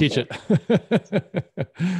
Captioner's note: laughs